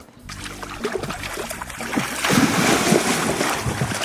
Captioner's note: water splashing